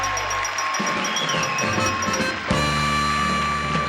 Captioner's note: ringing; applause and cheering